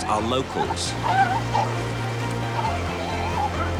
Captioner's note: sea lions calling